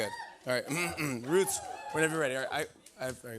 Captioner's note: clears throat